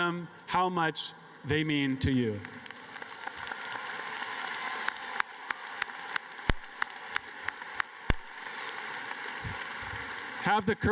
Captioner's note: applause